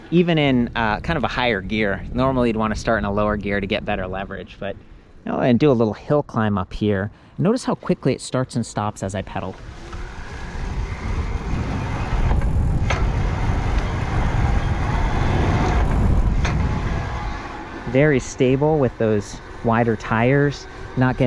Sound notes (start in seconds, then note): 12.7 chain cranking